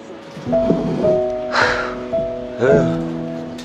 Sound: sigh

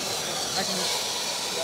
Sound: drilling

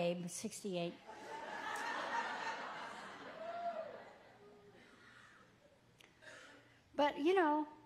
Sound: congregation laughs

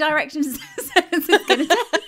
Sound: laughing

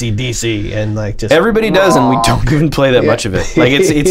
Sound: laughter

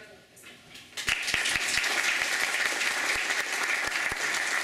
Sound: applause

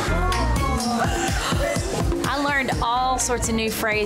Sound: laughs

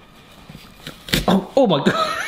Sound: crunch

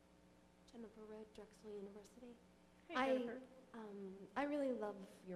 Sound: voiceover

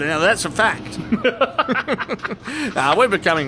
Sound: both laugh

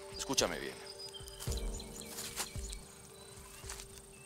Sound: birdsong

